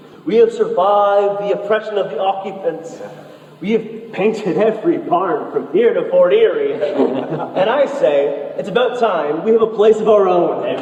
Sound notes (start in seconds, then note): 6.4 congregation laughs